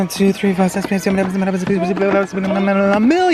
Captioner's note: high speed counting